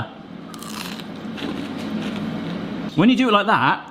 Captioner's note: onion ring crunching